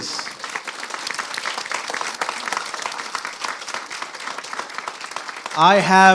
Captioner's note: applause